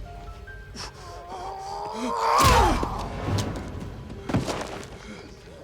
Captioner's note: Knox grunting